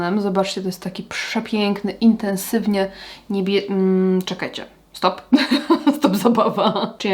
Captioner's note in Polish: śmiech